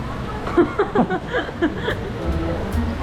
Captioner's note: embarrassed heh